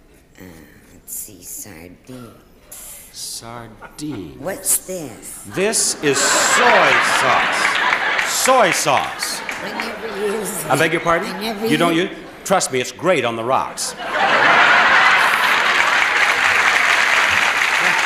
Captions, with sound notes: - Let's see. Sardines. - Sardines. - What's this? - This is soy sauce. (audience laughing) (audience clapping) Soy sauce. - I never use it. - I beg your pardon? - I never- - You don't- Trust me, it's great on the rocks. (audience laughing and clapping)